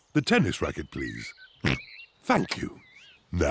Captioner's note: oinks